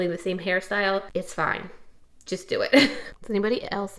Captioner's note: chuckles